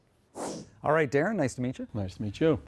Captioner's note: whoosh sound